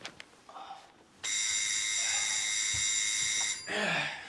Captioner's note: doorbell rings